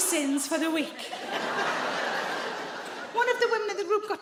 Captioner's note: audience laughing